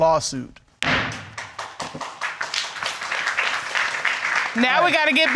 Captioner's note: clapping